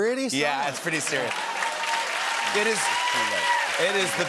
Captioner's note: cheers and applause